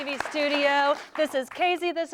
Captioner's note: �applause�